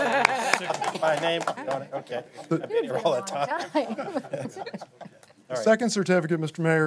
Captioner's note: applause